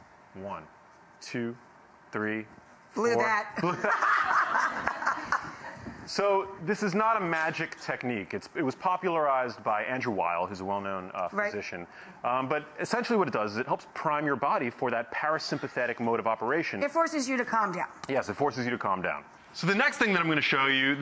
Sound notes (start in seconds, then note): 3.6 laughing